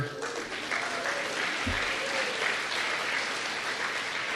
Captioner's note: applause